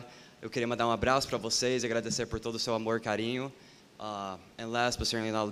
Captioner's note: speaking portuguese